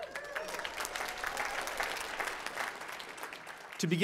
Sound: applause

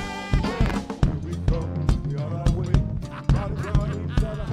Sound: laughing

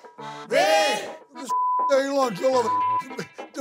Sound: beeps; beep

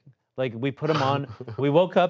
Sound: laughs

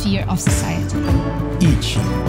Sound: Mandarin

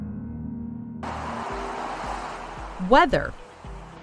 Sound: traffic sound

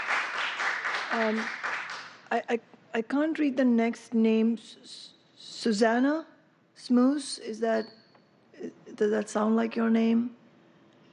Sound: applause

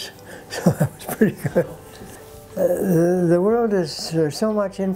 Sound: chuckles

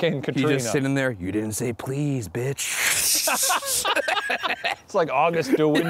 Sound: laughs

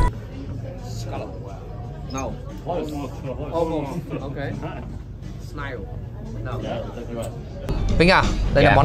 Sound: chatting

